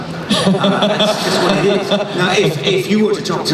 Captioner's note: laughing